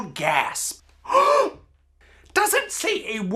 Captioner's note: gasp